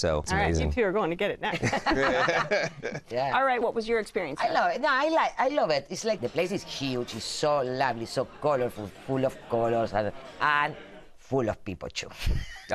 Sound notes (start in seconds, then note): 1.5 laughter